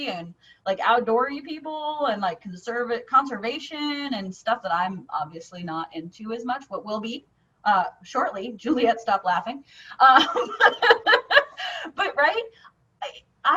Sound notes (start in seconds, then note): 10.1 laughing